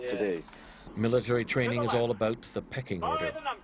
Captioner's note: voiceover